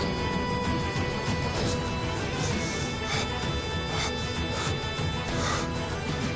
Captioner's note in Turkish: Derin nefes alma sesleri